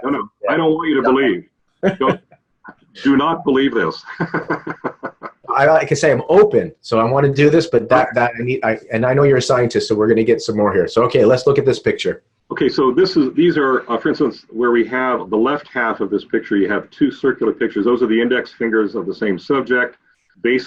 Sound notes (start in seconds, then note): 4.4 laughs